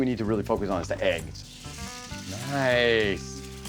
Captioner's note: grill sizzling